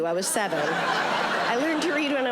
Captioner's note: audience laughing